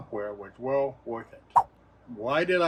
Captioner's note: swipe sound